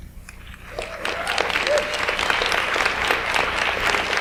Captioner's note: audience applauds